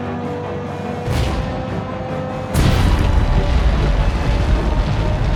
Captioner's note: intense, dramatic music; loud boom; weapon blasts; intense, dramatic music